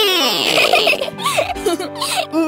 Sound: chuckles

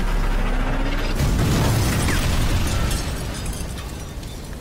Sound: truck exploding

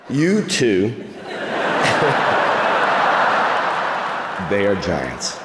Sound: crowd laughing

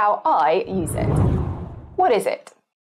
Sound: screen whooshes

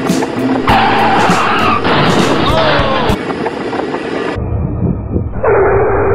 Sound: vehicle squealing and crashing

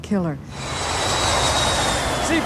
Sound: roaring airplane

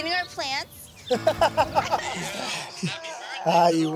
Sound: laughs

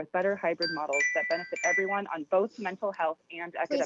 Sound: chime

